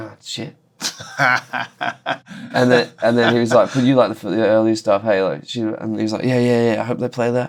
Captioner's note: laughter